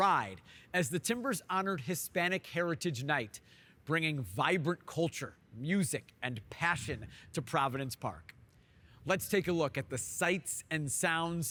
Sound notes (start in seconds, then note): none